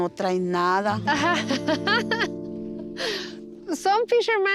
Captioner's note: laughs